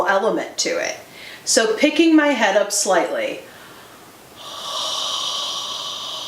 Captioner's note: exhales